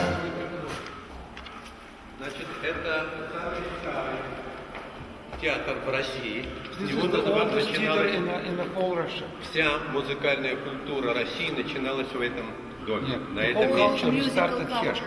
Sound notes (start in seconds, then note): 9.8 speaking in the Russian language